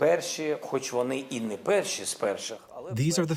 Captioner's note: through translator